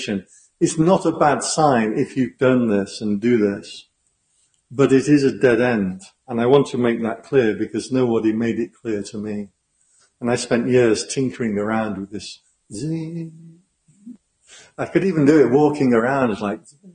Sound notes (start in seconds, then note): 12.7 zing